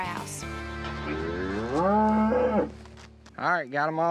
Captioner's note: cow grunts